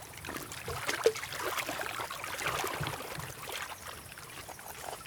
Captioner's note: water sloshes